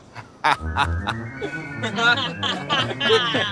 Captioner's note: group laughing